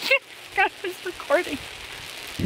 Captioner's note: laughing